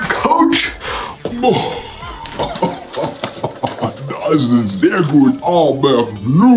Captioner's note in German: lach